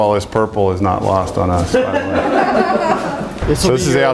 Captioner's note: laughter